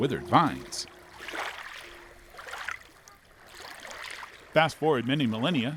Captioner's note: water splashing